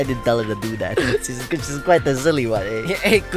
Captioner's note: inhales